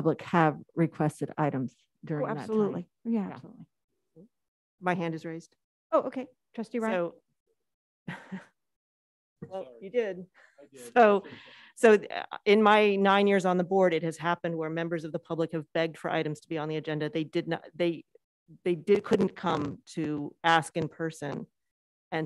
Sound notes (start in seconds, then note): 7.4 laughs